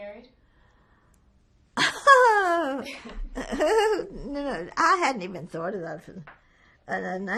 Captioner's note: laughing